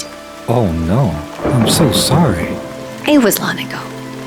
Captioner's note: thunder claps